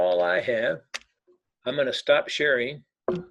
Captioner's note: keyboard clicking